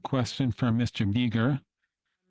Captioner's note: speaking French